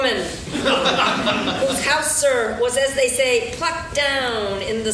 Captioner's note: laughing